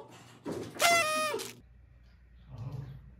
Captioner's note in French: Party popper sound